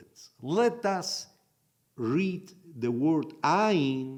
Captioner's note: in Hebrew